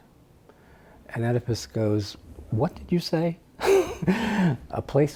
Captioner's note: laughs